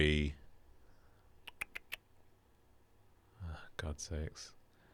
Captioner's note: tuts